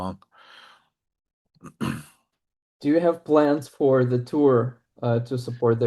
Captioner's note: clears throat